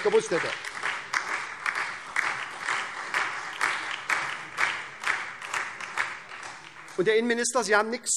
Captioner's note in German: Beifall SPD, Freie Demokraten und DIE LINKE